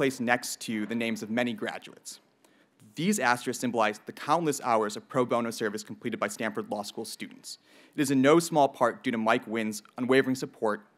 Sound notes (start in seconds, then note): none